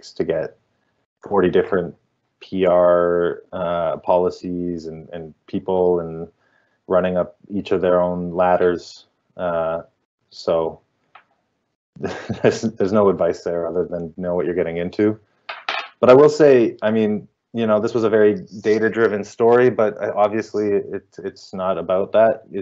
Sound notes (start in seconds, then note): 12.0 chuckling